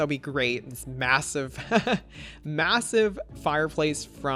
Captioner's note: laughs